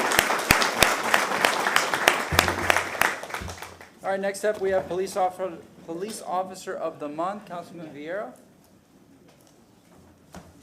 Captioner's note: applause